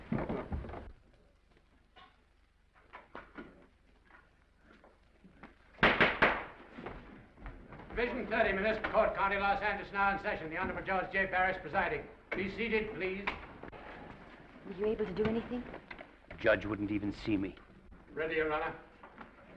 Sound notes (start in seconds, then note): 1.0 footsteps receding; 5.9 gavel bangs